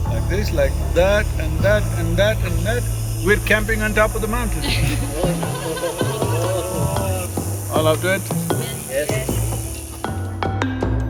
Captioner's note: cheering/Laughter